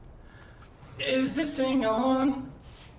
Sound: in robotic voice

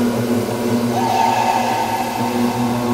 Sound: scream

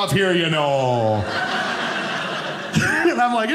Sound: audience laughing

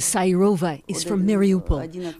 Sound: speaking Foreign Language

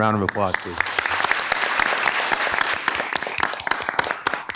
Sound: members clapping

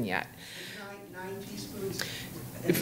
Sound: faintly speaking

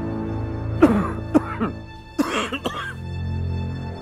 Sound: coughing

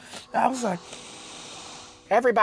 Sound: inhales

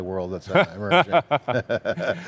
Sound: laughs

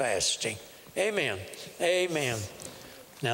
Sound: whispering; whispering

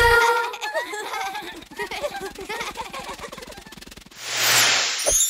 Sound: laughts

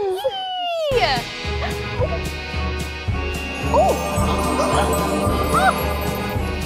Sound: magic sound; song music begins

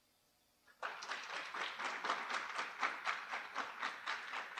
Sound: audience applauding

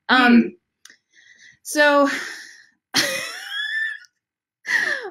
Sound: laughs

